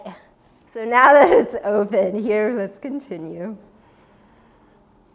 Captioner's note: laughs